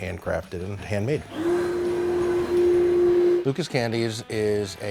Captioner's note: furnace whirring